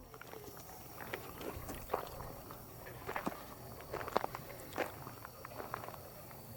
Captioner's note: footsteps